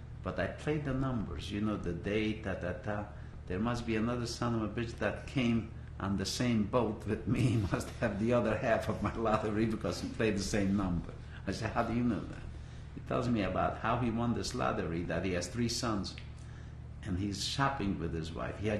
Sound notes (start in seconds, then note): 8.8 laughter